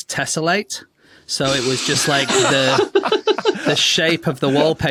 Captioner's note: laugh